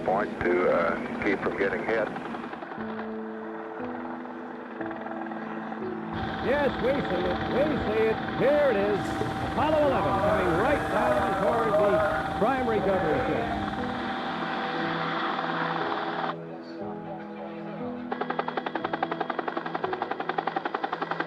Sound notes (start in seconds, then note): 14.5 helicopter blades whirring; 16.2 people talking in background; 18.0 helicopter blades whirring